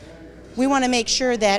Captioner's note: attendees chattering